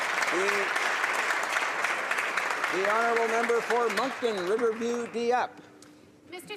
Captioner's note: applause